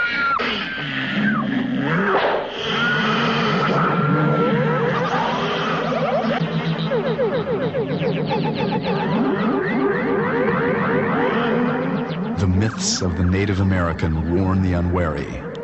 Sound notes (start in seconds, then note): 1.7 monster rawring; 4.6 frantic music